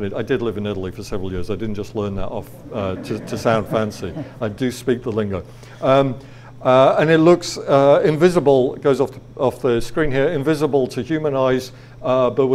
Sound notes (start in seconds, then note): 4.0 audience laughs